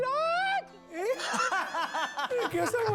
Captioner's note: laughing